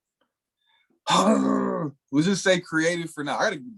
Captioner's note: grumbles